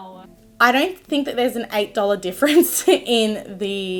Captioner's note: chuckles